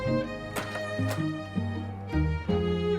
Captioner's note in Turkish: Kapı açıldı